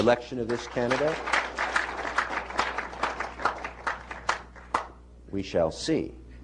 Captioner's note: applause